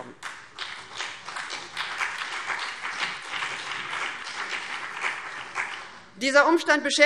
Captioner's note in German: Beifall BÜNDNIS 90/DIE GRÜNEN und vereinzelt CDU